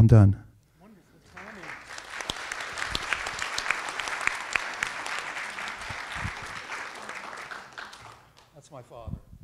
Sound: applause

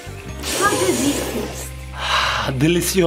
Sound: slurping stew

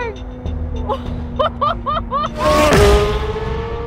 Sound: laughing

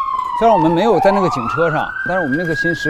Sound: fire truck

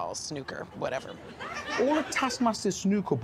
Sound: audience chuckling

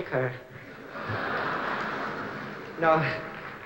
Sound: laughter

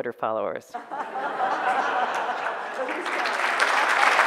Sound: audience laughter; audience applause

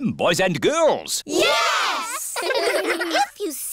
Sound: giggling

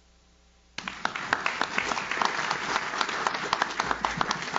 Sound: audience claps

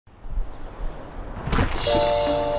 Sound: nature sounds; door opening

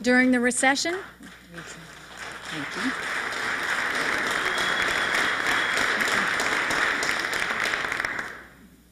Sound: applause

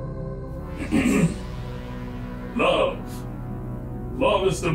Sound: clears throat

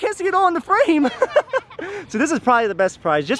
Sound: laughing

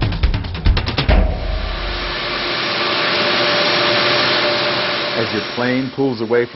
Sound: engines sound

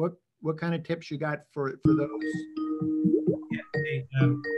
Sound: ringing sound

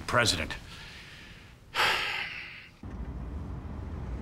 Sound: sighs

